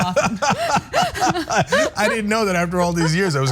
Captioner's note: laugh